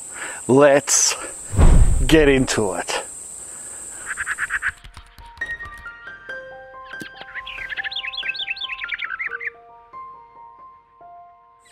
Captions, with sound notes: Let's (sound whooshing) get into it. (insects hissing) (bird chirping) (gentle piano music) (birds chirping)